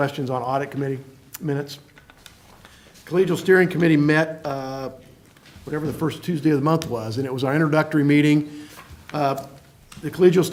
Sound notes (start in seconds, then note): none